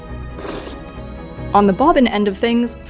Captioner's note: drawer scrapes